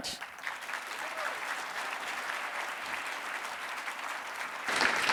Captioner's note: audience clapping and cheering